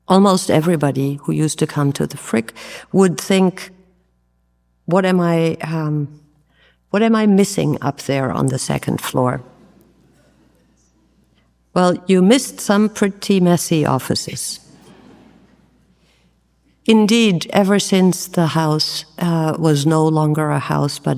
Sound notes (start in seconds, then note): 9.4 audience murmurs; 14.7 audience laughs